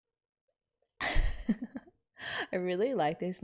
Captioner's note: laughs